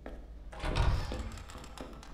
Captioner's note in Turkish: Kapı açıldı